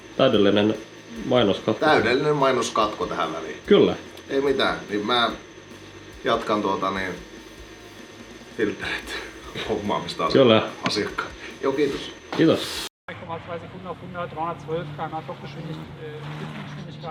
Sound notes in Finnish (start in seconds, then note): 13.2 taustapuhetta; 15.2 moottorin ääni